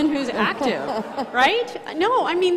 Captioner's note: crowd laughing